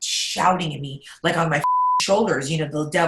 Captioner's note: beep